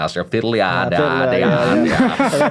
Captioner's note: laughing